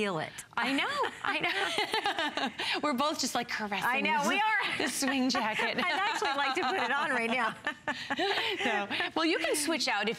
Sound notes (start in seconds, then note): 1.4 laughter; 4.4 laughter